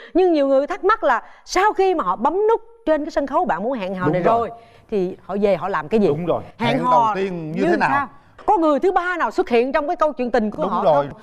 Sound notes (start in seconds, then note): none